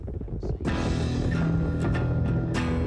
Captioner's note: hooves pounding